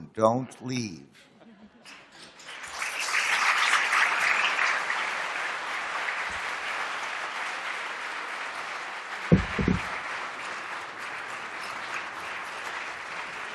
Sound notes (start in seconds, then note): 1.7 applause